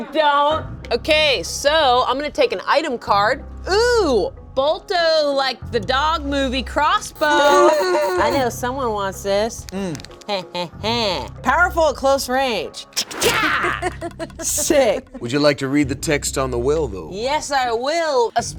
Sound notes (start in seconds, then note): 10.7 laughs